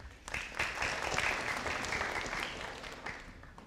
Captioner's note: audience applauding